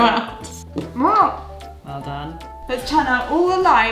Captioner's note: laughs; exclaims